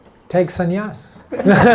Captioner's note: laughter